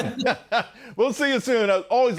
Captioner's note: laughter